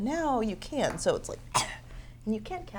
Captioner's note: coughs